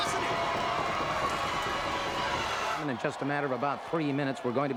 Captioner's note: crowd chatter